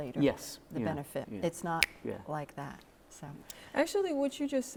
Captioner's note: fingers click